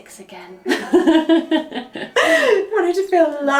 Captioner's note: laughs